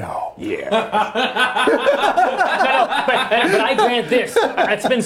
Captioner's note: laughing